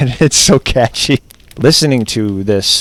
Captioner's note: laughs